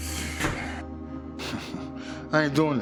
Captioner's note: Roy chuckles